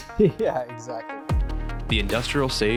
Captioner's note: laughs